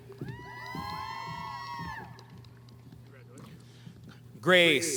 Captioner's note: audience applauding